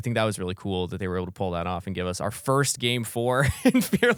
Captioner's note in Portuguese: risos